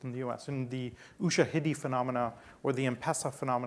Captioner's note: speaking foreign language